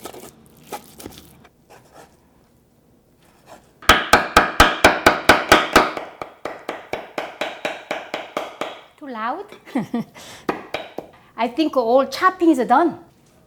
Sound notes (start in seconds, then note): 3.9 loud chopping; 9.6 chuckles